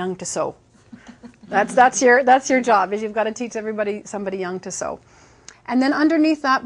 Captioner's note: laughing